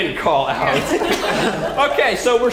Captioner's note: laugh